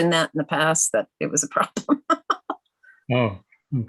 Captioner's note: laughing